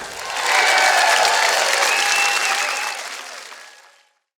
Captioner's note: audience cheering; audience applauding